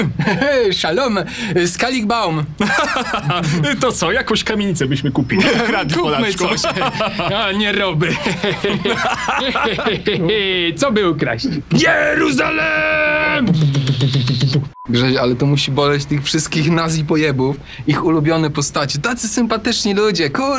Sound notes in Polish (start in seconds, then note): 2.6 śmiech; 9.4 śmiech; 12.2 udaje odłosy zestawu perkusyjnego